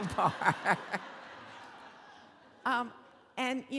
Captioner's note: laughing; audience laughing